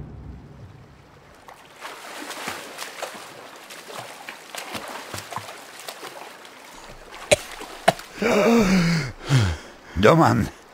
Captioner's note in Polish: Pluskanie wody